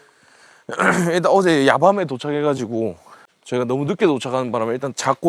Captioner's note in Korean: 목을 가다듬음